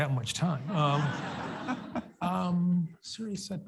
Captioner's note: audience laughs